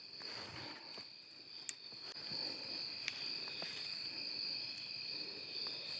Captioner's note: insects continue chirping